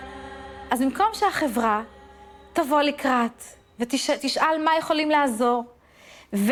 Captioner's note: speaking in foreign language